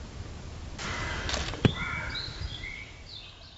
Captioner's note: crunch